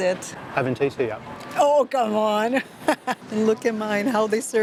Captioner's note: laughs